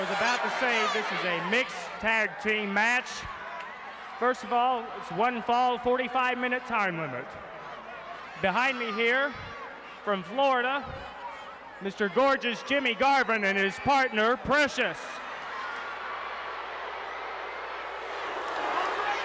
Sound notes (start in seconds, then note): 15.1 audience shouting